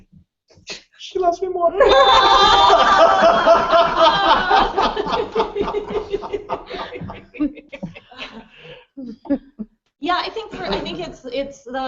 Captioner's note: laughter